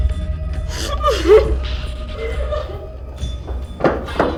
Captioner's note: Elizabeth crying